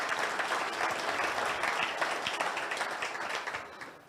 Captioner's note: audience cheers